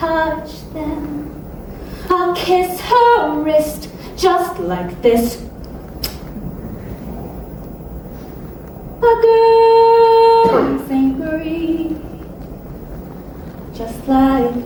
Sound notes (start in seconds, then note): 6.0 Smooch